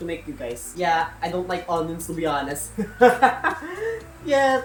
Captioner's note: laughs